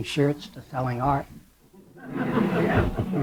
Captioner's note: laughter